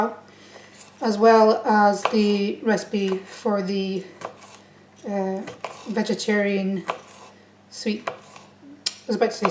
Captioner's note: tuts at self